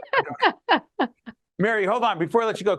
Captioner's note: laughing